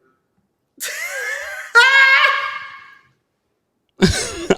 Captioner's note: Sanya laughing